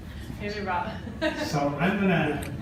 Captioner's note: laughing